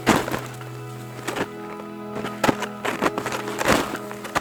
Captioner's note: snow falling